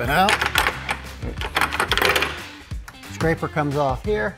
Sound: guard rattles

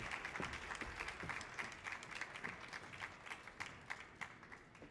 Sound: audience applause continues

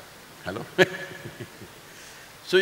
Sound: laughs

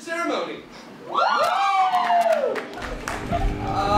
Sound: students cheering

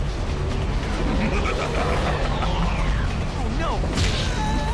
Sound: Venom laughs

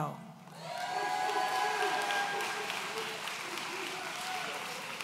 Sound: audience cheering

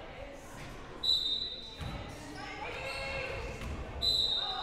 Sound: whistle blowing

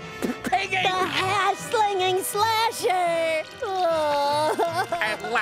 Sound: crying

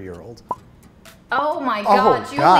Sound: timer ticks

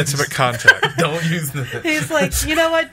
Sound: laughs

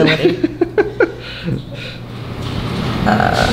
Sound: laughing

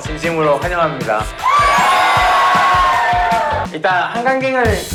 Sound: cheering

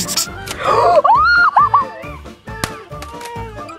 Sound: screaming

